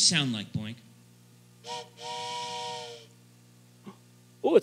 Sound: whistle blows; gasps

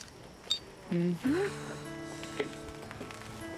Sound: Leah sighs

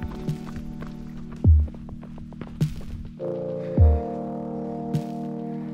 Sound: footsteps crunching

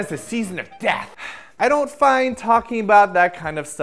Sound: sigh

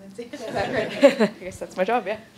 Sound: laughing

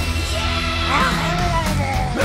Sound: jabbers; cackles

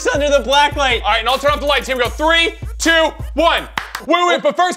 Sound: claps

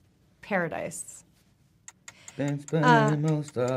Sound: timer ticking

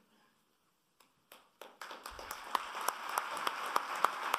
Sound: applauding

